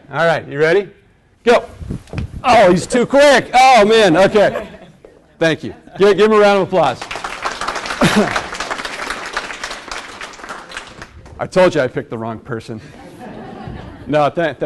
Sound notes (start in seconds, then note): 6.8 class claps